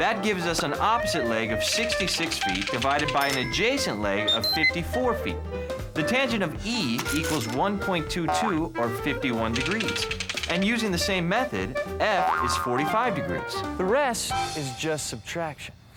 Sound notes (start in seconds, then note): none